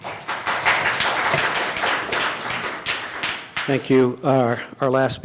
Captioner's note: applause